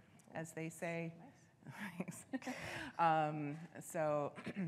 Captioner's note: both chuckling